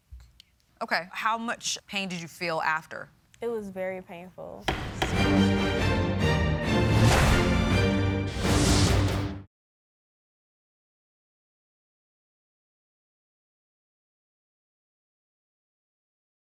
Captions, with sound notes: Okay. How much pain did you feel after? - It was very painful. (gavel bangs) (intense instrumental music)